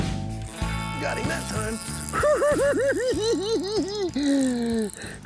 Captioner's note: giggles